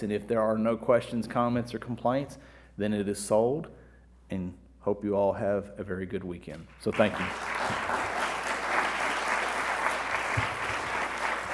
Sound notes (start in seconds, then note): 6.9 audience applauding